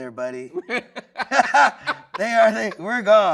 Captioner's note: everyone laughing